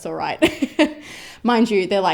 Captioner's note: laughs